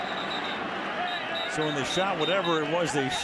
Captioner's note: whistle